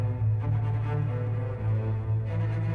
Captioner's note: none